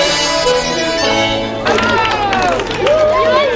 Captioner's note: applause